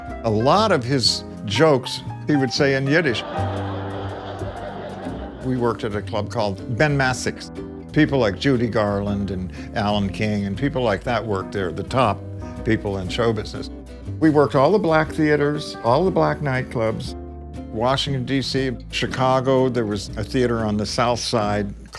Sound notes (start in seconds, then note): 2.9 audience laughs